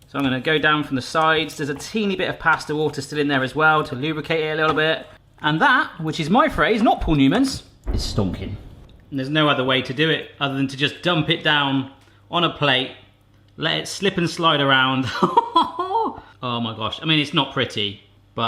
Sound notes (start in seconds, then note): 15.1 laughs